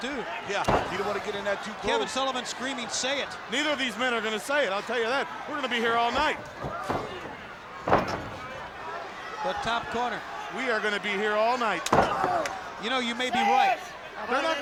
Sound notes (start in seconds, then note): 5.9 body thudding; 11.8 strap thudding